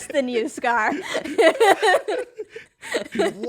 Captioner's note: laughter